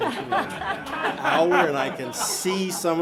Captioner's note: audience laughing